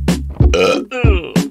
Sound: Belch

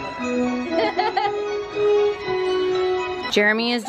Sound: kids laughing

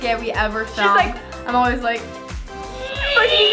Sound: high pitched squealing

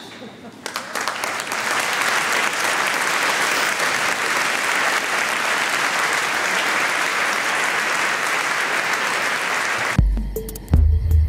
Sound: applause; Waldgeräusche mit rhythmischen Beats

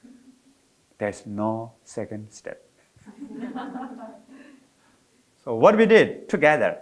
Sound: audience chuckling

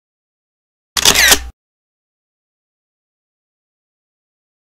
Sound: camera shutters

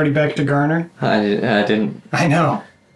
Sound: stammering

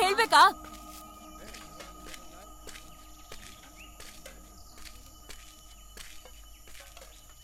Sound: footsteps sound

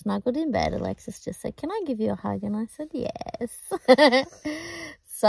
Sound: giggles

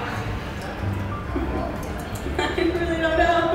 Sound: confused coffee tasting sounds; laughing

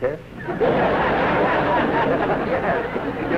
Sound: laughter

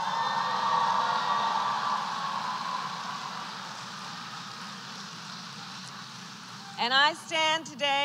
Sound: applause

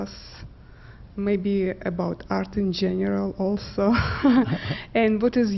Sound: laughs

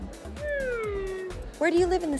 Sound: shrinking sound

